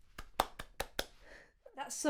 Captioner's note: hands clapping